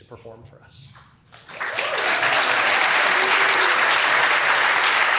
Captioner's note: applause